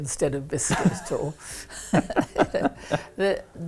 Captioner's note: laughs